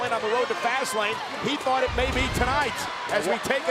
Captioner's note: audio whooshes